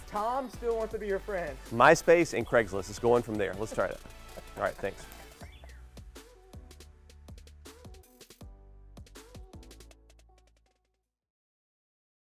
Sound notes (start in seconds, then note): 3.5 laughing; 5.5 upbeat music